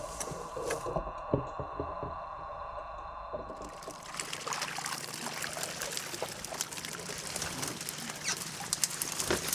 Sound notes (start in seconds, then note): 0.0 rustling sounds, light rattling; 3.6 splashing; 7.0 squeaking